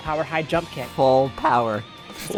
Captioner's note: sarcastically